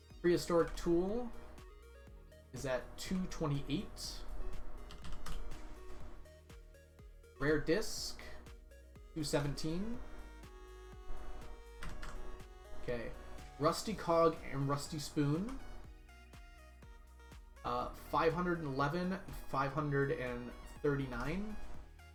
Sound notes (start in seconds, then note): none